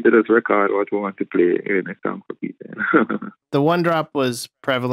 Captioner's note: laughter